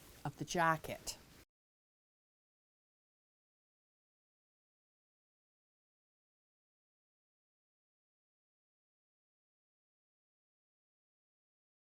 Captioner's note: no Sound Present